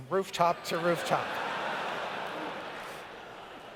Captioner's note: laughter